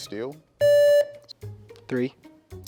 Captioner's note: contestant beeping